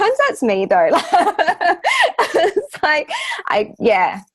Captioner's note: all laughing